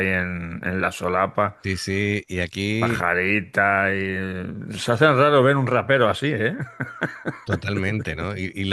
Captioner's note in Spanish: risas